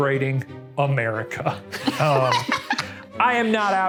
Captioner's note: laughing